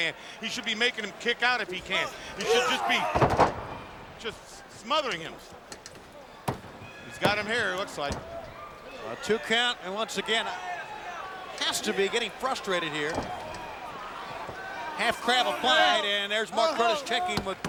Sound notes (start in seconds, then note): 6.6 hand pounding